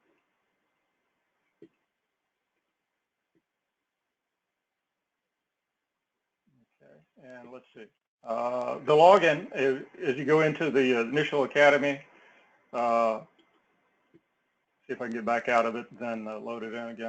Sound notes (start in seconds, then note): none